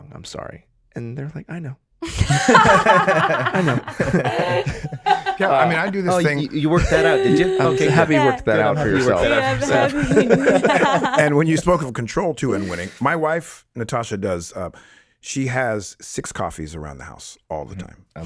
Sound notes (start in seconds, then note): 1.9 all laughing; 10.4 all laughing